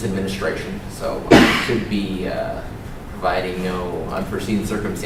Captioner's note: cough